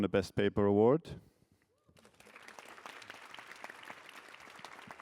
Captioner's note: applause